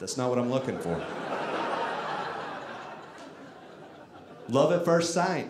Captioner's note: audience laughing